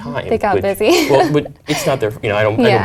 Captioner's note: laugh